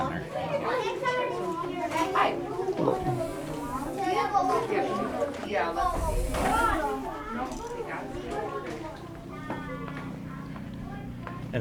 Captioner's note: children chattering